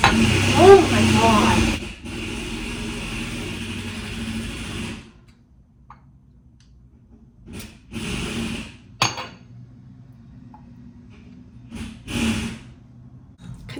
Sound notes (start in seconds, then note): 0.0 loud drilling sounds; 3.2 loud drilling again